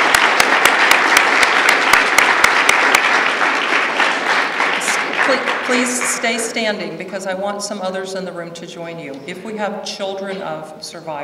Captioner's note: applause